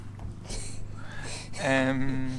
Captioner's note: laughs